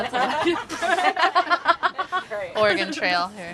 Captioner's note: laughter